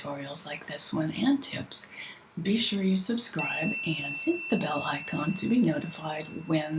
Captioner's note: bell ringing